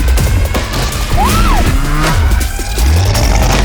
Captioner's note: intense music continues; woman yelling; engine roaring